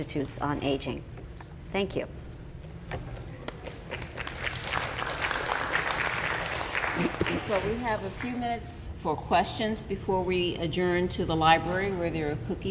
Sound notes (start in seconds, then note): 3.5 applause